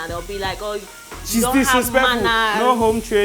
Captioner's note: imitates an auntie